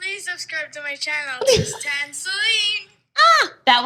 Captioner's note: ladies chuckle